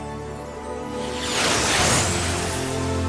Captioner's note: whoosh